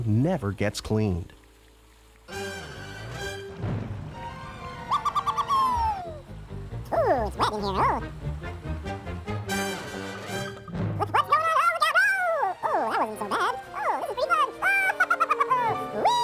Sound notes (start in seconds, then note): 5.0 laughing; 15.2 laughing